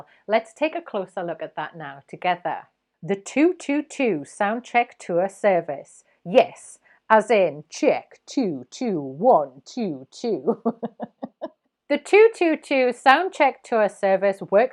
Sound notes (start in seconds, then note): 10.4 chuckles